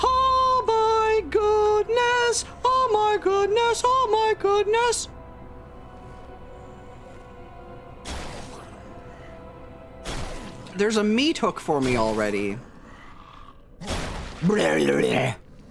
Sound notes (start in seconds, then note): 5.2 tense music; 8.0 crash; 8.8 tense music; 10.0 crash; 12.7 monster growl; 13.8 crash; 14.4 monster grunts